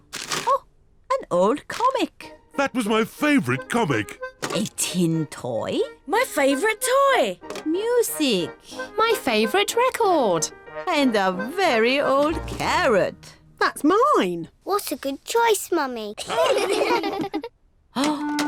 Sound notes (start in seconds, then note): 16.2 all laugh